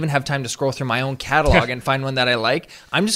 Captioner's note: laughs